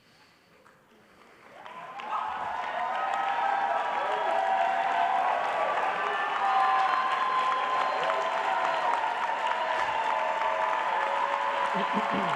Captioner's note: applause